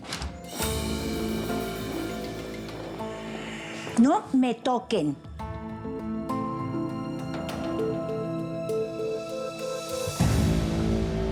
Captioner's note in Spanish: sonido al abrir la puerta